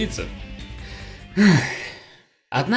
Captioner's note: sigh